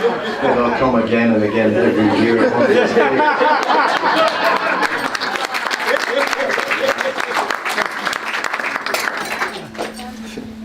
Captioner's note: laughter; applause; laughter